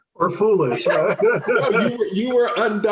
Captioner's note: laughing